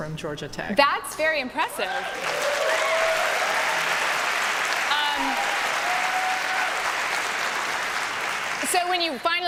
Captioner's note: applause